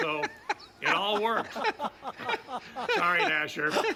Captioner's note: laughter